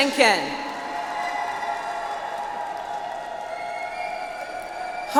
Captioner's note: audience applauds